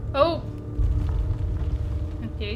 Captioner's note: heavy footsteps and rumbling continue